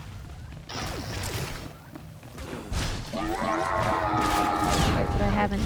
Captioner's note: tense music; gun shots